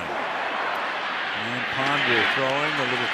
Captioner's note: cheering